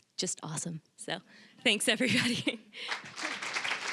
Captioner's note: chuckling; applause